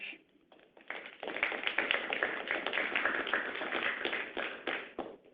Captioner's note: audience applauds